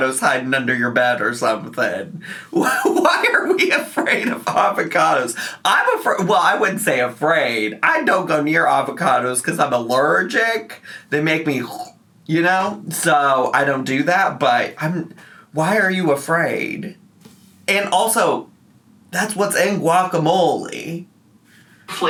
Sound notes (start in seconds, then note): 12.1 gagging